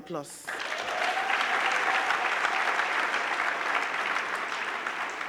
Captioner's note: crowd clapping; crowd cheering